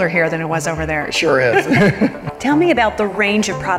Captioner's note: both laugh